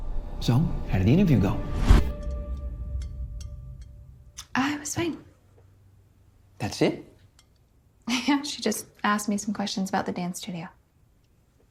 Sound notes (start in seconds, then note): 7.6 chuckles